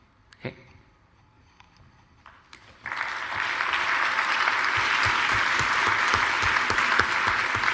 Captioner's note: applause